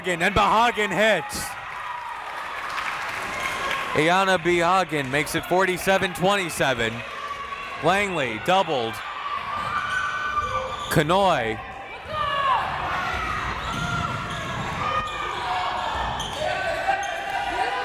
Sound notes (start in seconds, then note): 2.4 crowd clapping; 10.8 crowd members shouting